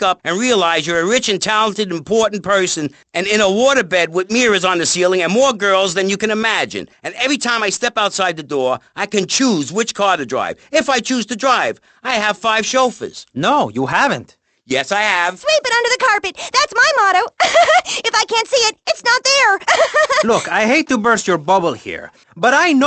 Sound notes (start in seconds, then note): 19.4 laughs